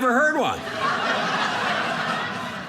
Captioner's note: audience laughing